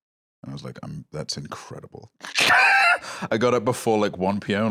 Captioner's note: laughs